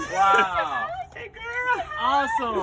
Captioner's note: chuckles